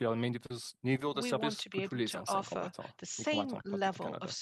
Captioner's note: speaking French